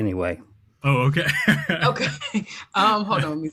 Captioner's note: laughter